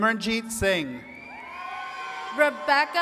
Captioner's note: attendees cheering and clapping